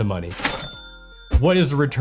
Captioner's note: cash register ringing